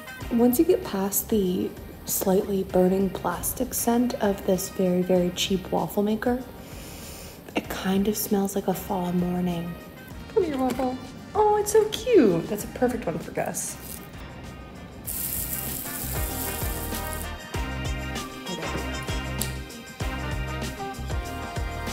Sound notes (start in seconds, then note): 0.0 oil sizzling; 15.0 oil sizzling; 18.0 ambient music